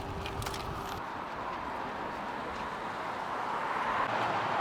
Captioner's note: car whooshing